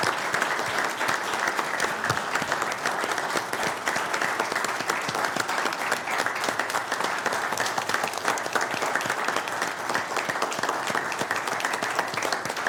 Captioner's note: applause